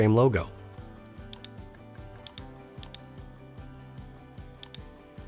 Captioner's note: mouse clicking